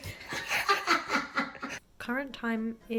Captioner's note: laughing